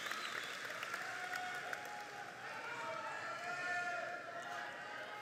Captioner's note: audience shouting happily